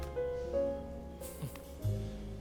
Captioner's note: chuckles